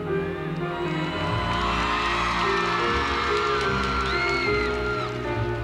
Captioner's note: cheering